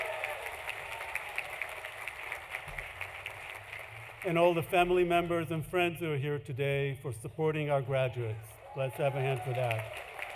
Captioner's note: applause; cheering